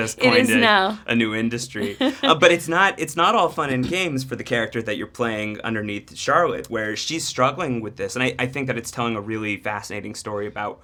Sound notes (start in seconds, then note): 1.8 Tessa laughs